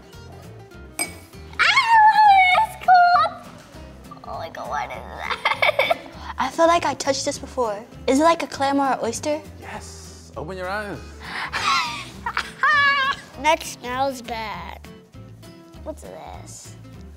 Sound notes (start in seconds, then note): 5.2 laughs; 11.4 laughs